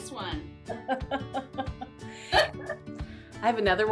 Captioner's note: both laugh